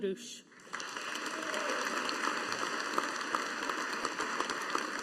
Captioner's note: audience applauding